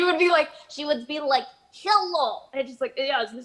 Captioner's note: Russian accent; normal voice